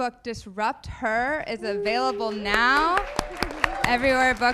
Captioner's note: audience applauding